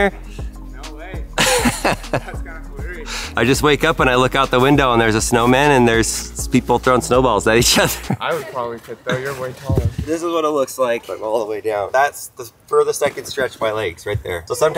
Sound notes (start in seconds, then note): 1.3 Tesla camper laughing; 7.6 laughs